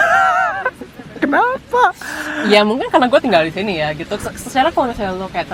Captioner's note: laugh